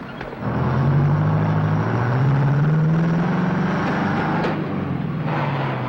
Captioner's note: truck engine whirring